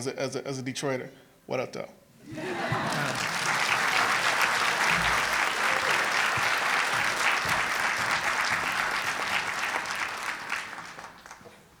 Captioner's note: applause